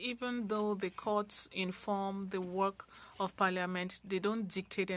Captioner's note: speaking French